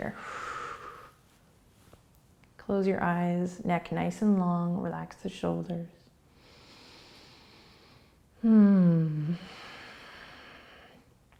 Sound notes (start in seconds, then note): 0.1 exhaling; 6.4 inhaling